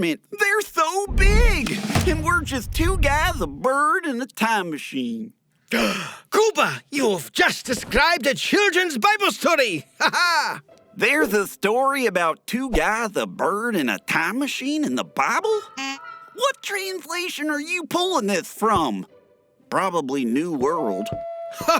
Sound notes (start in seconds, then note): 5.7 gasp; 9.9 laugh